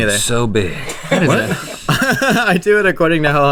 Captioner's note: laughing